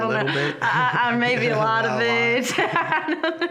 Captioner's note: laughing